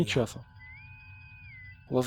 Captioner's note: intercom whistle